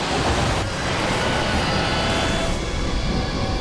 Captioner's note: plane thuds; intense music; jet whooshing